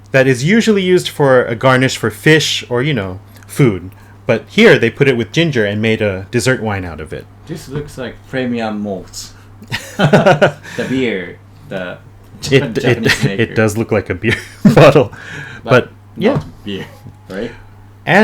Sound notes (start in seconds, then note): 9.6 chuckling